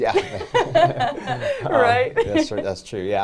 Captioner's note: laughing